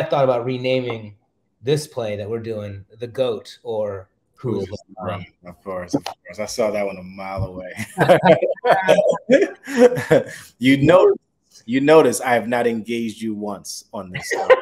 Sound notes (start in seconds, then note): 7.6 laugh